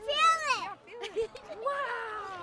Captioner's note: giggles